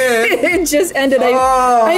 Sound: laughs

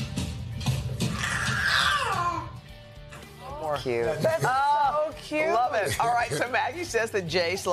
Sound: baby laughing

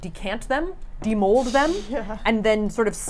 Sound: chuckles

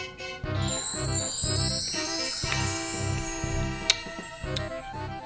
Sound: magic sounds; eating sounds

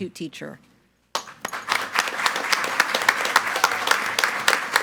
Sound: group applauding

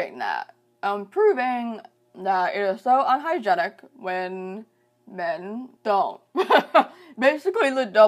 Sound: laughs

